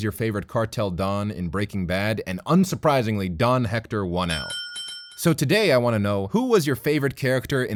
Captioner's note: ring Ring